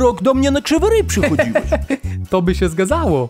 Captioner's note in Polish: Śmiech